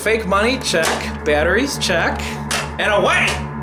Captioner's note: gun clicking